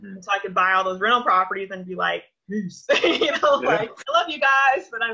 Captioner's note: laughs